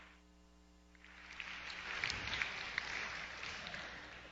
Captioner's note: applause